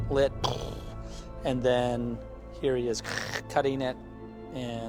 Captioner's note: vocalizes; mimicking saw whirring